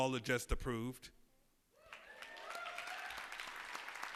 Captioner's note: cheers and applause